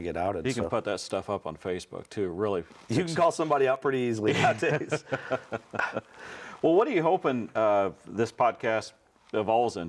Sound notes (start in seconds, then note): 4.2 laughs